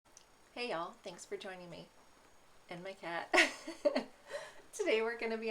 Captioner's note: laughs